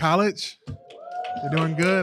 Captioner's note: cheering